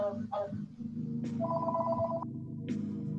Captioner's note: phone rings; smooth music plays